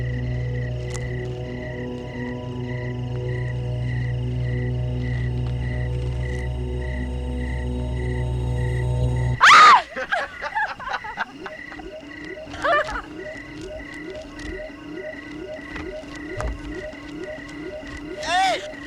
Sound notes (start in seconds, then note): 9.4 girl screams; 11.0 boy laughs; 18.2 girl giggling